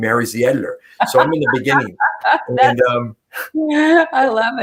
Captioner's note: laughter